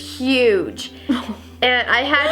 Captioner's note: laughs